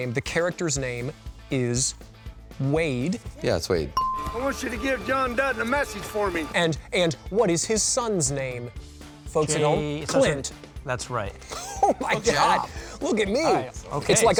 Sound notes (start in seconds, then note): 4.0 bell dings; 11.5 laughs